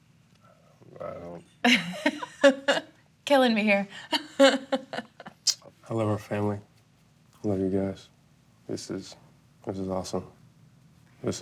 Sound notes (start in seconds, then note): 1.6 laughs; 5.2 laughs